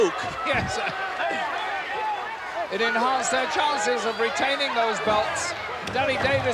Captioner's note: laugh